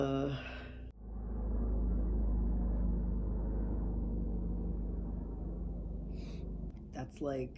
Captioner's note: plane sound